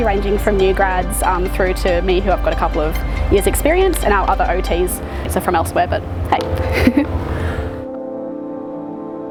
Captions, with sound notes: ranging from new grads through to me who, I've got a couple of years' experience And our other OTs are from elsewhere but, hey (laughs)